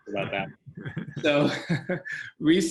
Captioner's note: laugh